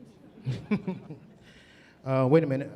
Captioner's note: laughing